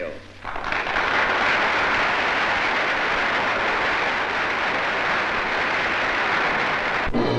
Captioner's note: applause